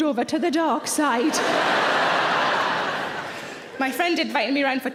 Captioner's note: audience laughing